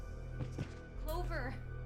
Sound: body thudding on floor

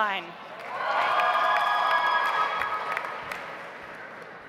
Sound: audience applauds

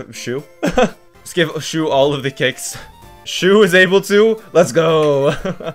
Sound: laughs; laughs

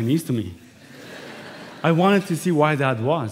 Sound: laughter

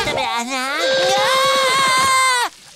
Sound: screaming

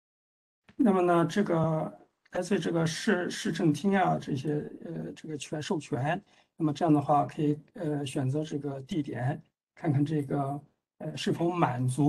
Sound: speaks in Mandarin

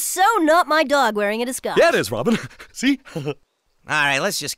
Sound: dopey laugh

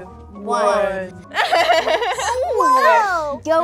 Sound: laughing

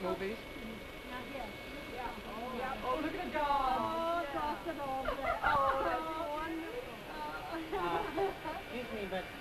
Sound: women chatter; women ooh and ah

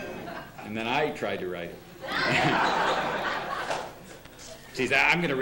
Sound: laughter; laughter

